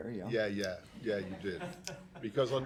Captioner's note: laughter